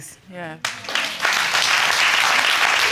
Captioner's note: audience applauding